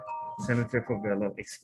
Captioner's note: phone ringing